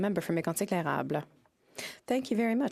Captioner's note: speaking French